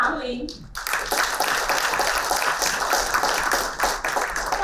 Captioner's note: applauding